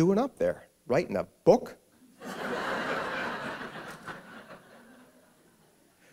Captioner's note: laughter